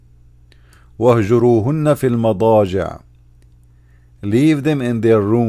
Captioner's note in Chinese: 念阿拉伯语